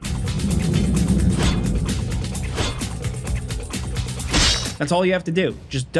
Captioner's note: dynamic music; sword clanking